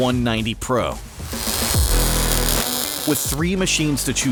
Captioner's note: sizzling